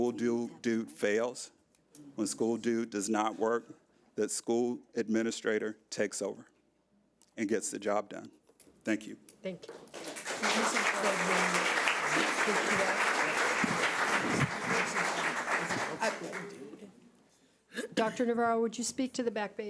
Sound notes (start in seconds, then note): 9.8 audience applause